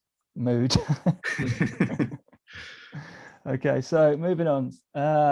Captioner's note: laughing